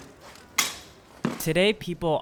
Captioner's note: swords bang against each other